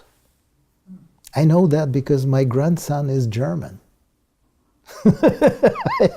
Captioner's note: laugh